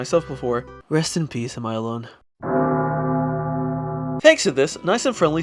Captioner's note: death bell sfx